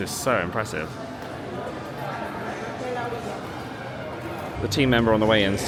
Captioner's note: guests chatting indistinctly continues